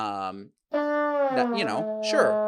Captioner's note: horn blows